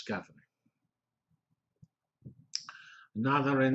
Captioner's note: pause